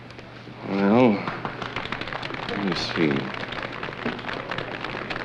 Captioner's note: applause